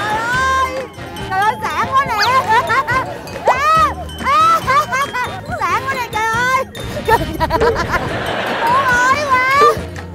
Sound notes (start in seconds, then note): 3.5 A scream that travels through time and space; 7.3 scream stops, evil laugh starts